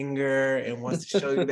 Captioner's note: laughs